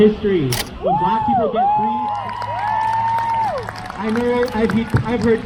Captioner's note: crowd cheers